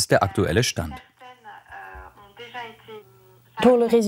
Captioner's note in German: Sie spricht französisch